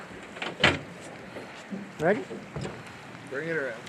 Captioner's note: clanking